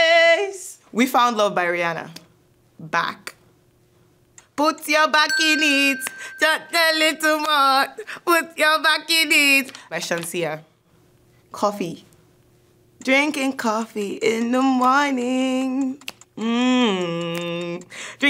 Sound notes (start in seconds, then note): 15.5 snaps fingers